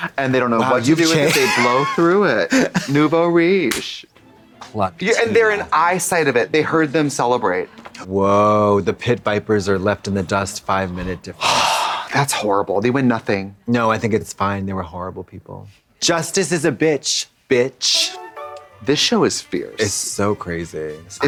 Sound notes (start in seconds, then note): 11.4 Trixie sighs; 17.8 playful music